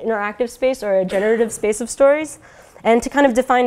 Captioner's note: cough